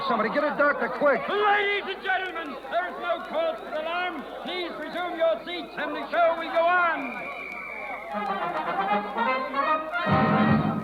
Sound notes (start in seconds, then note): 6.9 whistle blows; 9.0 dramatic music